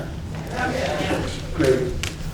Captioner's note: audience murmuring